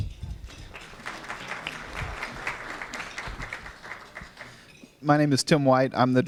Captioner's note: applause